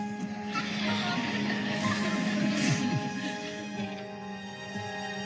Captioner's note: crowd laughing